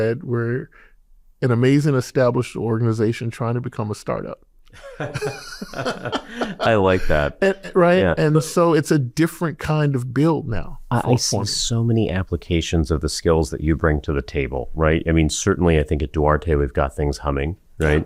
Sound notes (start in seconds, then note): 4.7 laughter